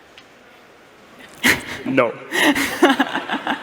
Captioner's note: laughter